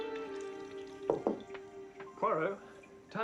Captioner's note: Mengetuk pintu